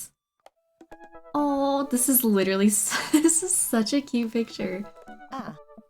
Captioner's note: laughs